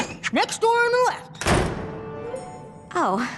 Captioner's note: slam